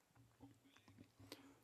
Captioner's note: speaking French